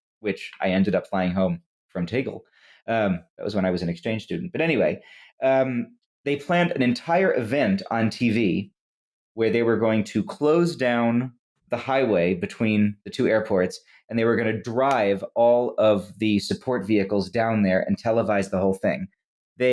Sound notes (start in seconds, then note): none